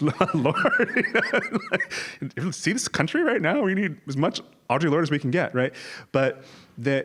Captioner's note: laugh